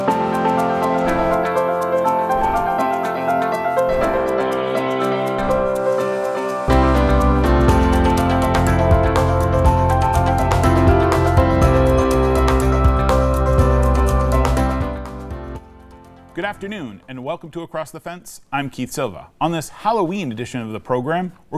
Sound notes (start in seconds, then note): 0.0 upbeat music; 0.0 water rushing; 0.2 upbeat music continues; 3.8 goats bleating; 5.7 uplifting music continues